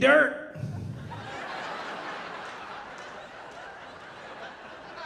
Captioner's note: audience laughing